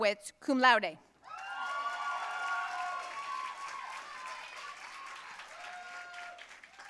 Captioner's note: audience cheering and applauding